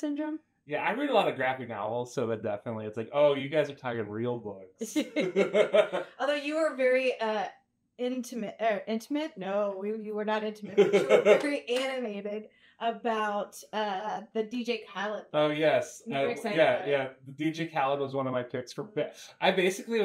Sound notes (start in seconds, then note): 4.8 both laugh; 10.6 laughs